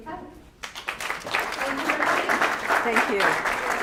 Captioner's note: audience applauding